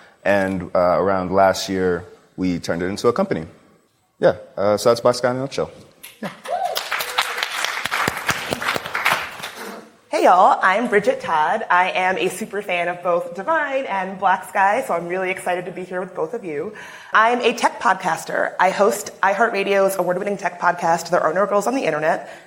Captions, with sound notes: And around last year, we turned it into a company. Yeah. So that's Blacksky in a nutshell. Yeah. [applause] Hey y'all. I'm Bridget Todd. I am a superfan of both diVine and Blacksky, so I'm really excited to be here with both of you. I'm a tech podcaster. I host iHeartRadio's award-winning tech podcast There Are No Girls on the Internet